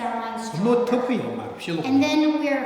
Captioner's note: speaking tibetan